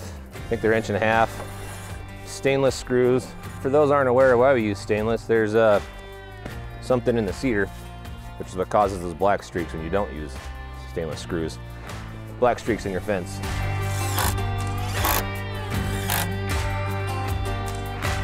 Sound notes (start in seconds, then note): 13.8 drill buzzing; 15.6 rock music